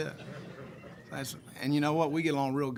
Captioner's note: group laughs